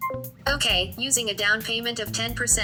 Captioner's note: voiceover